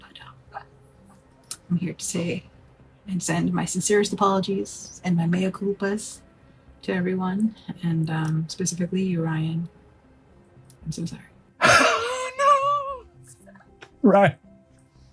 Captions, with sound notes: But I'm here to say and send my sincerest apologies, and my (foreign language) to everyone, and specifically you, Ryan, I'm so sorry. - No, Ryan.